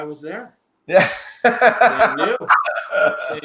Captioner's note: laughing